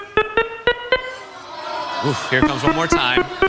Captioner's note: beeping; audience groans